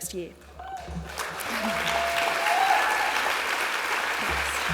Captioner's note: applause